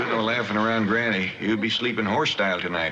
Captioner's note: laughs